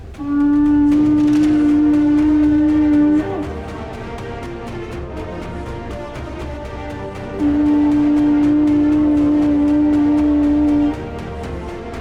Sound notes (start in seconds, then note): 0.1 blows horn; 7.2 blows horn